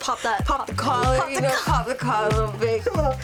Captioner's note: laughs